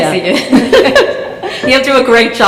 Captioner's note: chuckle